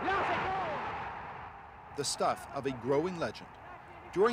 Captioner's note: announcer calls the game in French; crowd cheering